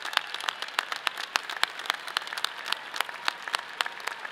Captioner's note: audience applauds; people cheer